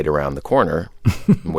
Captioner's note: laughter